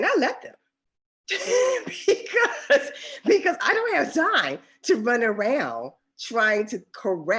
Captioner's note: laughs